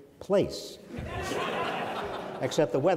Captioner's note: audience laughs